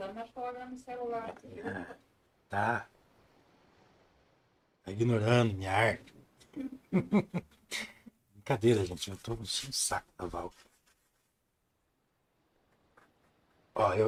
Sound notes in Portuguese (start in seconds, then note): 6.5 risadas